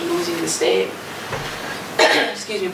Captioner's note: coughs